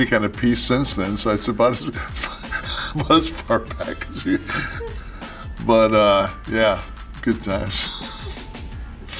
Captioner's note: laugh